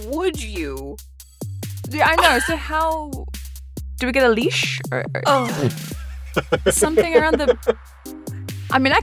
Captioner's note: A COUPLE PEOPLE laugh